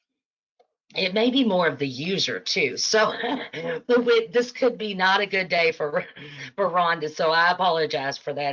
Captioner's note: laughing